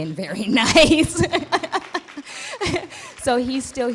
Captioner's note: laughs; clapping